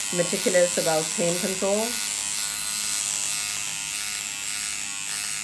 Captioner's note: machine buzzing